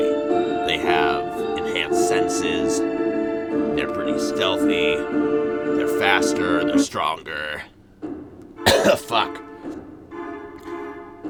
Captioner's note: coughs